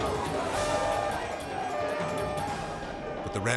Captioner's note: alarm beeping